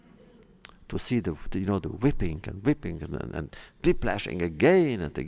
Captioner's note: laughter